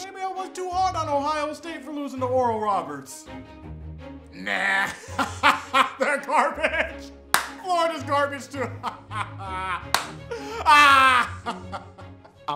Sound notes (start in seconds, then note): 4.4 laughs; 7.8 continues to laugh out loud